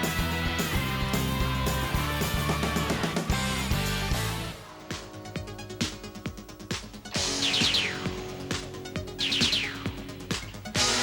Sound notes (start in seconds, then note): 5.0 upbeat electronic music; 7.1 lasers firing